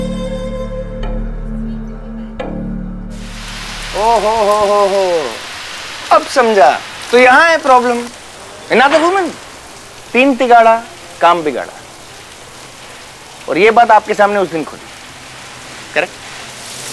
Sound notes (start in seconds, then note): 4.4 Raining